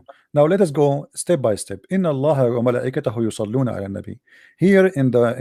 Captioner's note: arabic